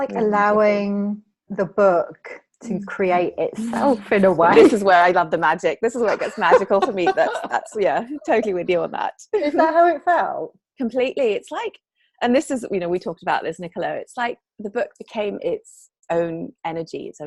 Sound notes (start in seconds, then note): 6.0 laughing